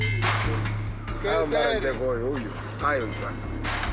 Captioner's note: Portuguese spoken audio